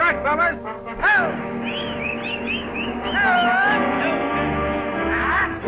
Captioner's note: cowboys prod and whistle; suspenseful music